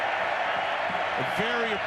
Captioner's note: crowd cheering